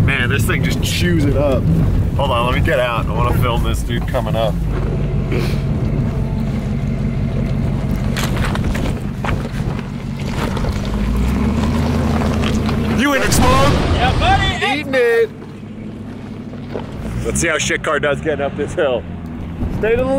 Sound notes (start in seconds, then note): 12.9 exploding